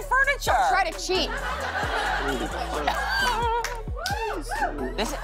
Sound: laughter

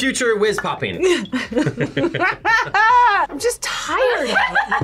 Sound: both laugh

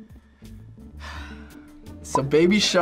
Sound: sighs

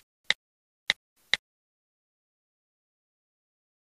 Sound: typing clicking

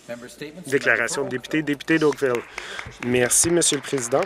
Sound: some Applause

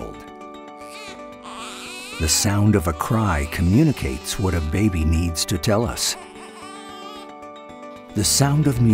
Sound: baby crying sound

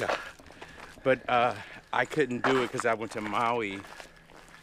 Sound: none

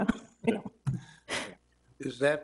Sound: chuckles

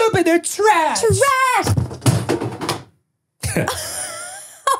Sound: picture falls; both laugh

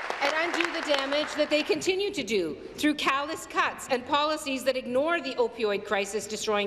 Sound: applause

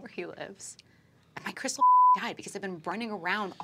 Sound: beeping

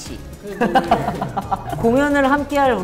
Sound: laughing

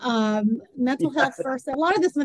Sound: laughs

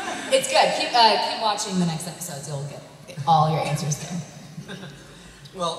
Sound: laughs

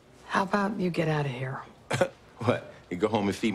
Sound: laughs

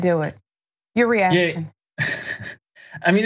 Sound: laugh

